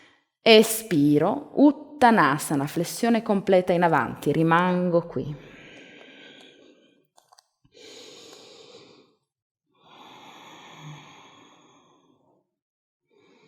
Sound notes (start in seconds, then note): 7.8 inhale-exhale